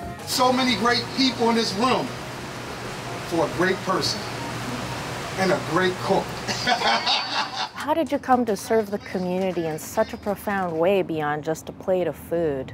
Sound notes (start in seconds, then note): 6.4 laughs